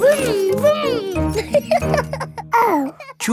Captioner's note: laughing; laughs and snorts